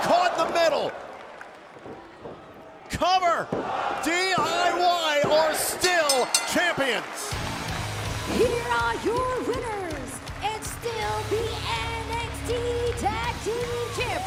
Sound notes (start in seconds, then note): 5.8 bell ringing